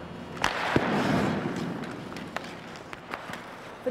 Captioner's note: stick slaps puck